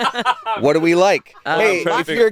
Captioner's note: laughing